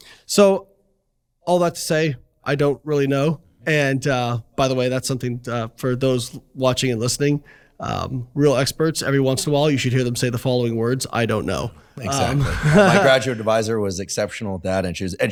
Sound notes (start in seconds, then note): 12.1 chuckles